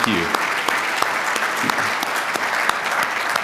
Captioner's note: applause